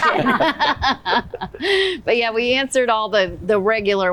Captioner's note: laughter